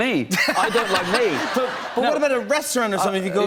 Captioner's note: laughter